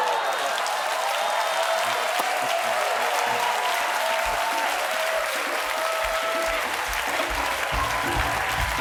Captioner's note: cheers and applause